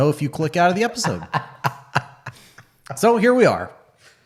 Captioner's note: laughing